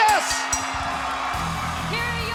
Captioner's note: crowd cheering; upbeat music